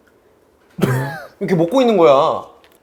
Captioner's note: nom nom nom